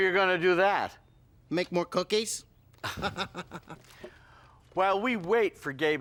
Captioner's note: laughs